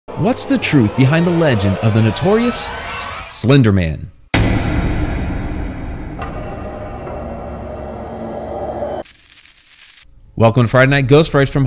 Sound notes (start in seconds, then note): 0.1 dramatic scary music; 9.0 static crackling